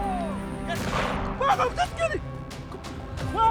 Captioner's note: gunsh*t